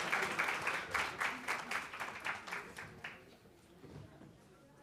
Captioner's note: applause